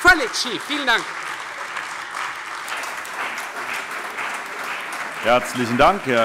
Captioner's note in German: Beifall Freie Demokraten, CDU, AfD, vereinzelt SPD und BÜNDNIS 90/DIE GRÜNEN